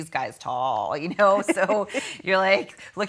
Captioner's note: laughing